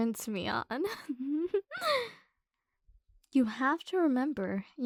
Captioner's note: soft laugh